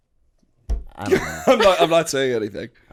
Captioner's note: chuckle